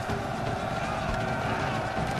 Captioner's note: yelling